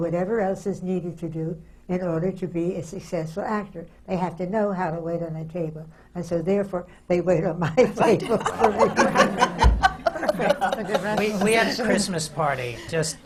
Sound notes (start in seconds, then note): 7.7 laughter; 8.0 laughs